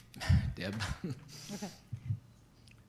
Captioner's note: laughs